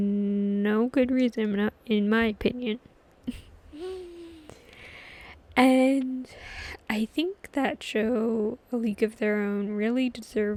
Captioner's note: laughs